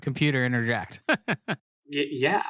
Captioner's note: laughs